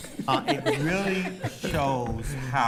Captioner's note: others laughing